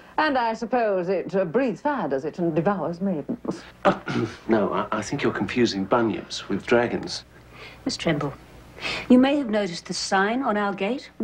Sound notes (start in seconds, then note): 3.8 clears throat